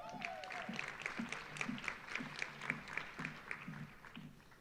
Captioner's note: audience applauding